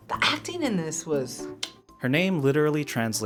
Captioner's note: clicks tongue